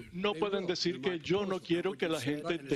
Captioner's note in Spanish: hablan en ingés